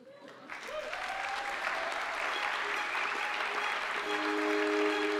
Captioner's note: audience applauding